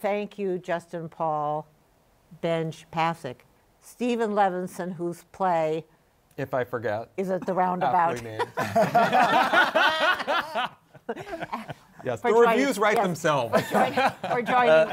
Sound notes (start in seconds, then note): 8.0 laughter